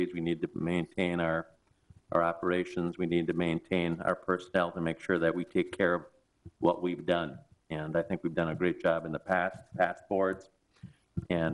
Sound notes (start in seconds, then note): none